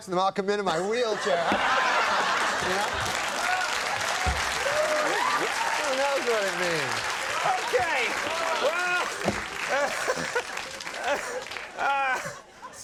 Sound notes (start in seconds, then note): 3.8 audience clapping; 9.6 Conan laughing